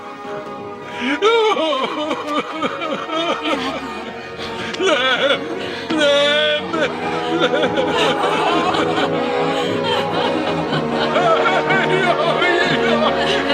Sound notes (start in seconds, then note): 7.6 wailing